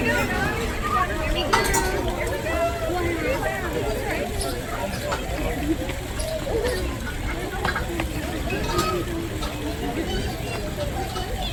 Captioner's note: crowd noise